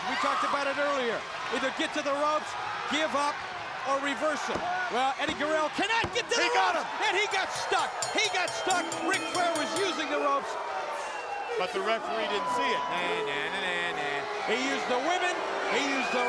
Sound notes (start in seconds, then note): 7.4 bell ringing